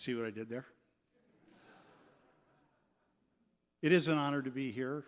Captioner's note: laughter